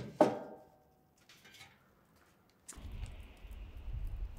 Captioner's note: wood thudding